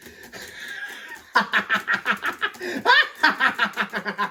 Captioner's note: typing + menacing laughter